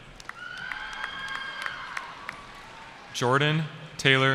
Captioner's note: cheering